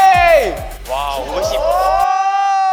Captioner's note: impressed